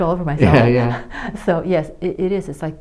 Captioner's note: laughs